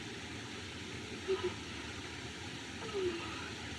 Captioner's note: whimpers